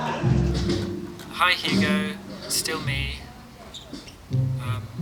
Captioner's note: audience laughing; augusto, on voicemail recording